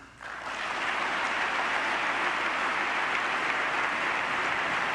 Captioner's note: audience applause